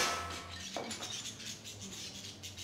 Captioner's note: glass shattering